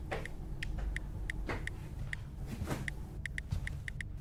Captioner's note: phone clicking